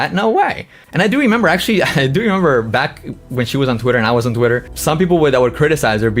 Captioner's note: laughs